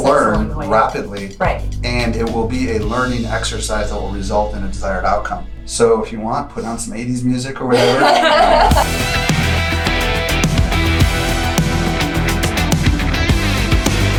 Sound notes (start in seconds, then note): 7.7 laughter; 8.0 rock music